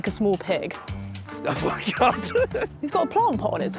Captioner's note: laughs